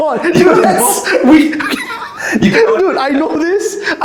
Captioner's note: wheezing